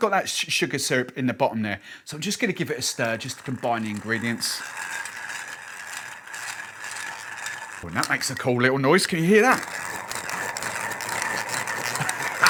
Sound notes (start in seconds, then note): 5.0 liquid stirring; 9.9 stirring intensifies